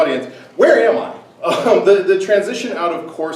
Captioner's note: laughs